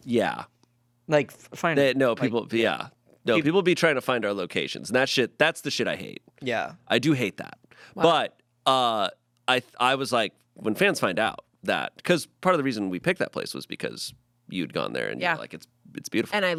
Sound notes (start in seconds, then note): none